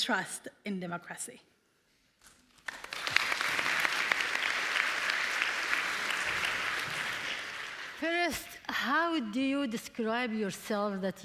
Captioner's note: applause